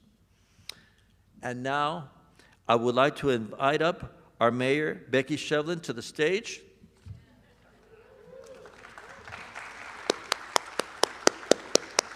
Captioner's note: applause